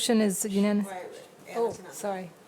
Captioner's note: faintly speaking